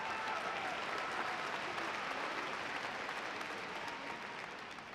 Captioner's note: audience applauding